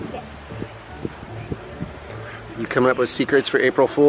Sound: whispering

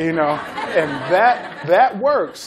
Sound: laughter

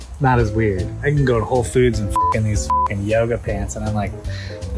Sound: beep

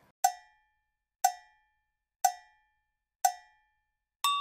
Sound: cow bell clanging

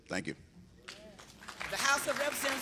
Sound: applause

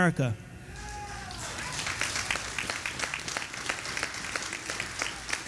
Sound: audience applauding

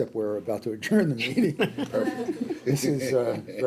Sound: laughing

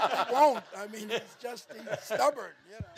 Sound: all laughing

